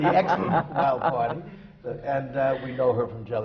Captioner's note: laughs